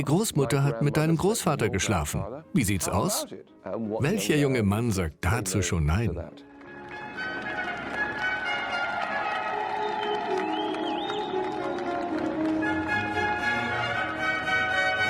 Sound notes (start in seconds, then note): 7.1 crowd cheering; 10.2 regal instrumental music